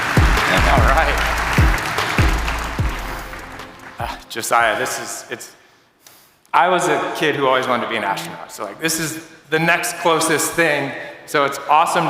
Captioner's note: applause